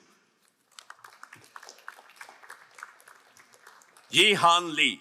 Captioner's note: crowd applauding